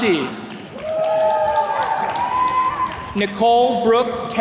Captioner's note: attendees cheering